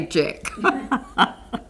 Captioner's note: laughter